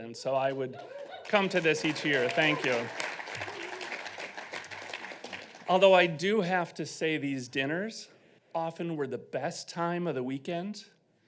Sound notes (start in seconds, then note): 3.1 audience applauding